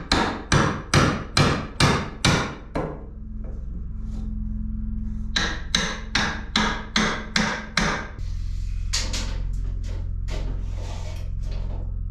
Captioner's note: loud whirring